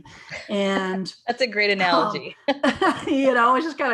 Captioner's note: laughs